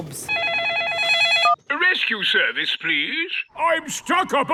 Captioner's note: phone ringing